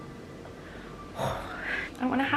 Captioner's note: sigh